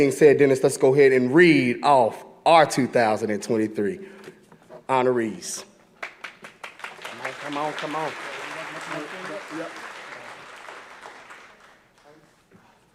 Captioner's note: applause